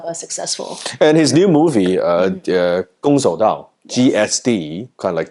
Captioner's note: speaks foreign language